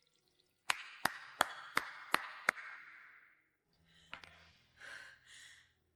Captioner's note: clapping